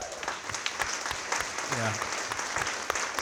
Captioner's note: audience cheering and clapping